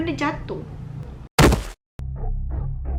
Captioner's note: slam